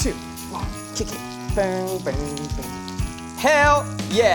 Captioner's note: vocalizes